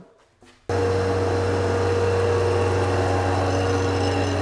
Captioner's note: machine humming